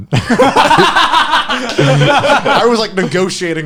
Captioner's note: laughing